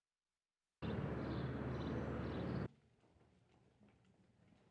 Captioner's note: birds chirping